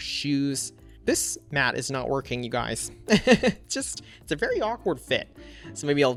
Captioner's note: laughs